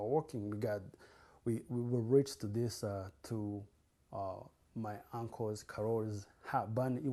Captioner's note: non-english